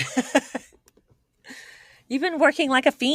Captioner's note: laughing